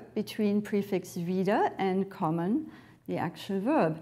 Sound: woman speaks in foreign language

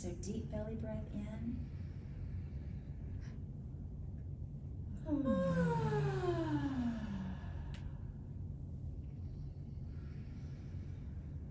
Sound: exhaling with vocalization

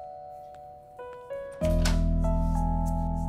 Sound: door opens

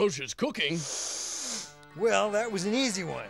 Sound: sniffing

